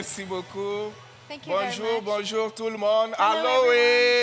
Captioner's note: speaks French